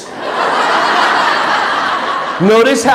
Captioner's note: audience laughing